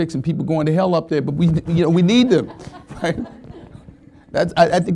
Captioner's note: laughing